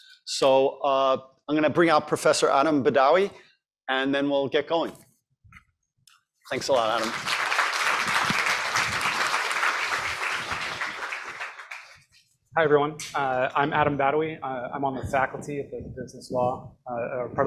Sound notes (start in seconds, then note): 6.5 applause